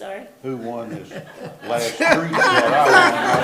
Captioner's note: participants laugh